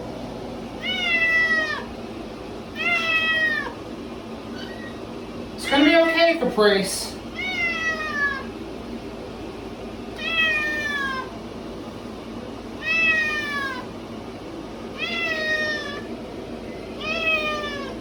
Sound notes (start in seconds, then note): 0.0 Caprice meows louder; 4.2 Caprice meows loudly